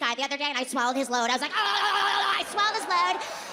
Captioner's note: audience cheering